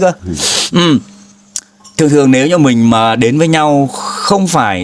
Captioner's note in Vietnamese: khịt mũi